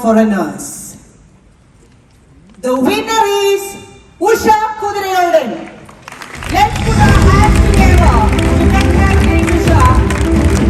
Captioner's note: cheers